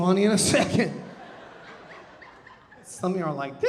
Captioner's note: audience laughing